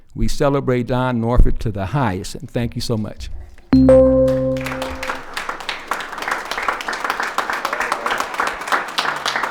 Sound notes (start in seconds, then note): 3.7 timer beeps; 4.0 attendees applauding